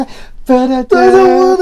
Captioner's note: does celebration noises